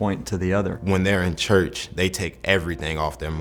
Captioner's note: voiceover